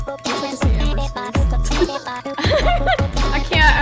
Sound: giggles

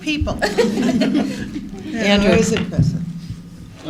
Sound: laughter

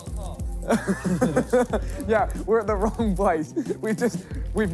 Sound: laughing

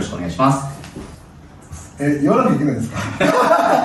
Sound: laughs

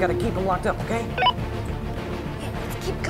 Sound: walkie talkie beeps

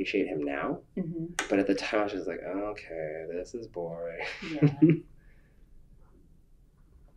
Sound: laughs

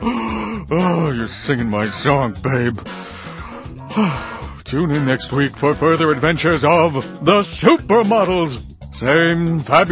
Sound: sighs

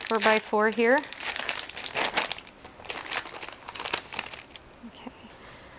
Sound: wrapper crackling

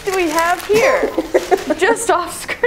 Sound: laughing

